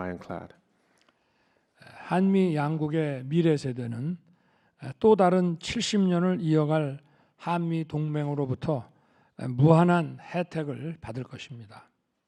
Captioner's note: speaking Korean